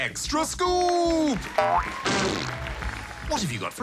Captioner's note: applause